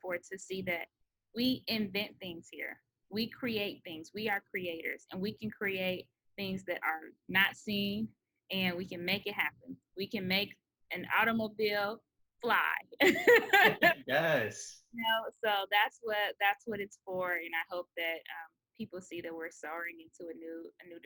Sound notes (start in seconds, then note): 13.0 laughs